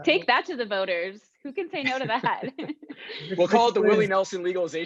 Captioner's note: panelists laugh